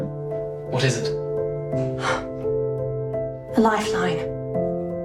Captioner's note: gasps